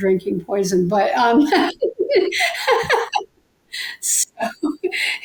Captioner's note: laughs